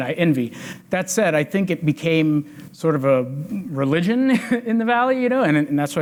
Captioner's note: chuckles